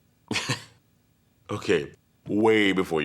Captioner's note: laugh